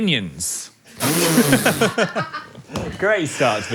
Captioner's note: Dan, Phil, and crew laugh